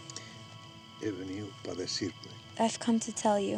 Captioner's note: speaking spanish